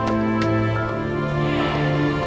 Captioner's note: people cheering